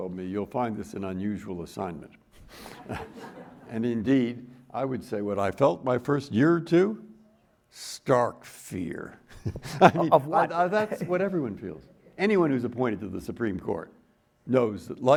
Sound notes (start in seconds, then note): 2.6 everyone chuckling; 9.3 chuckles